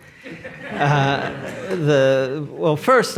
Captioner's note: audience laughs